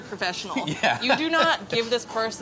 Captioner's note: laughs